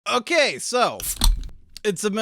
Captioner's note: bottle opening sound